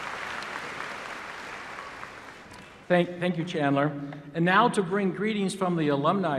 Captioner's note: applause